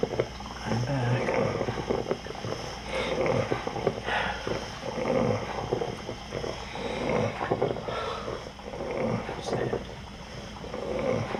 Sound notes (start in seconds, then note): 2.7 sniffles, Sighs